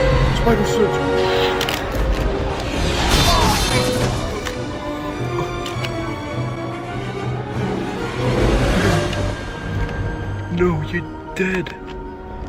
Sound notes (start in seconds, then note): 2.4 wush; 3.6 screams of agony